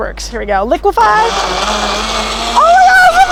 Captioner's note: blender running